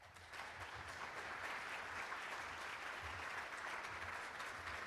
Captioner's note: applauding